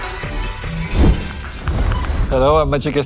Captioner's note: electronic buzzing